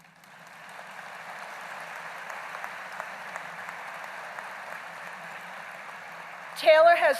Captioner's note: applause